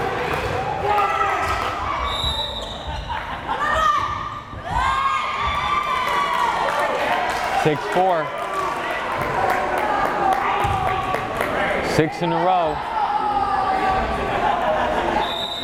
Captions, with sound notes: (whistle blares) (crowd cheering) 6-4! Six in a row.